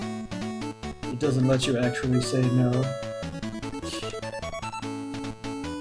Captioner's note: scoffs